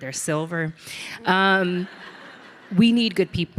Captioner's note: audience laughs